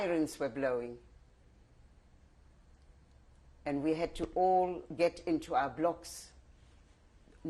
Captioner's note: pauses for 3 seconds